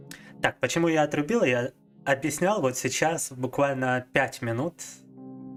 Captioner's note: speaking in foreign language